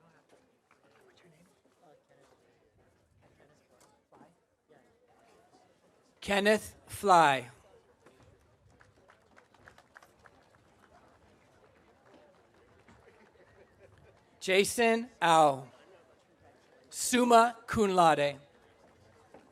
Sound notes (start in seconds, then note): 10.0 audience applauding